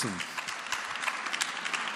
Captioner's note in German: Beifall